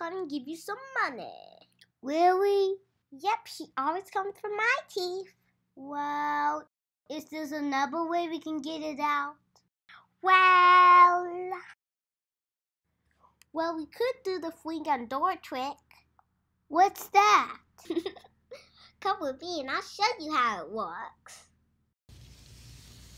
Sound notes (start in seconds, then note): 17.8 giggles